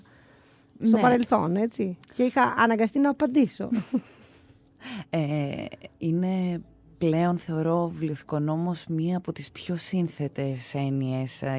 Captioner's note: chuckles